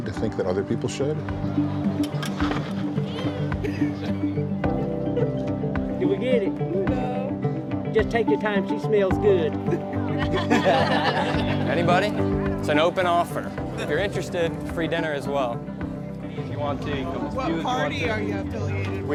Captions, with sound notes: to think that other people should? [upbeat music continues] - Did we get it? - No. - Just take your time, she smells good. [people laughing] - Anybody, it's an open offer. If you're interested, free dinner as well. If you want to. - What party are you affiliated with?